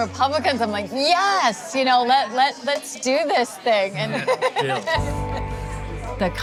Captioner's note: laughs